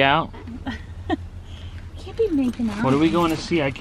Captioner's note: laughs